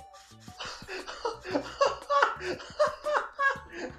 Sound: starts Laughing

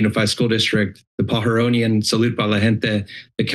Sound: foreign language

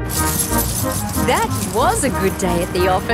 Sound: coins jingling

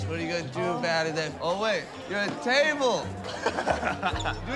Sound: laughs

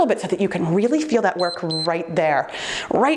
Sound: timer beeps

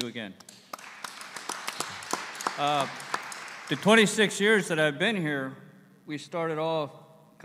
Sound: applause

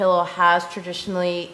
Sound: none

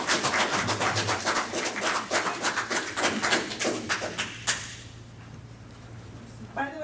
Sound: applause

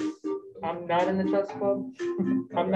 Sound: speaking over the music

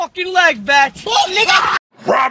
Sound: Nash Grier screams

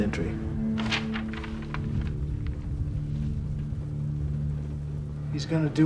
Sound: pages Flapping

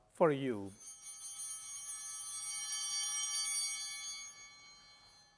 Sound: bell ringing

